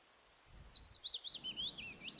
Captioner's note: birds chirping